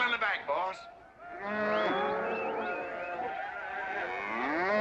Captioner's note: whistling & mooing; loud mooing